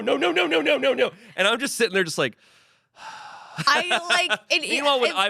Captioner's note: sighs